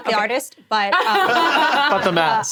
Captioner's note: laughing